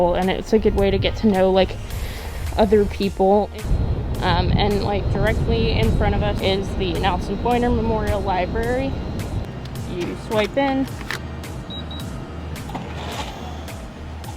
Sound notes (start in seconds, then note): 10.8 beeping